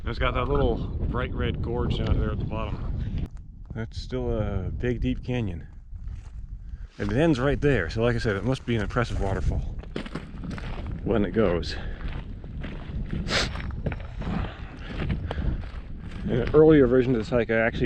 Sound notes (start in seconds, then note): 12.3 footsteps thumping; 13.2 sniffing